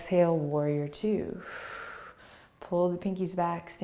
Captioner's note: exhaling